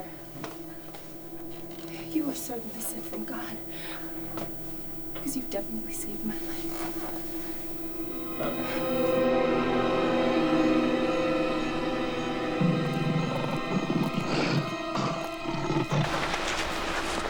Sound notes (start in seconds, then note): 6.0 ominous music; 12.2 growling